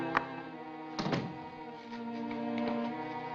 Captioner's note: door closing